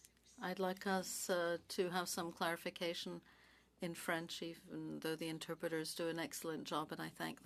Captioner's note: speaking French